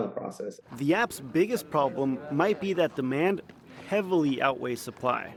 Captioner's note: voice-over